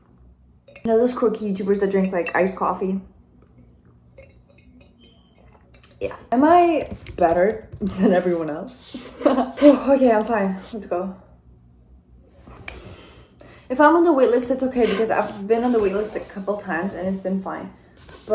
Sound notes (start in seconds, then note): 8.1 laughs